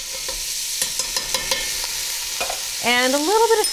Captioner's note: pot sizzles